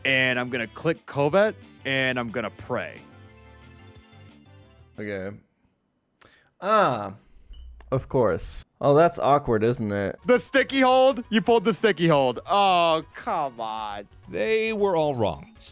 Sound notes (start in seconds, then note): none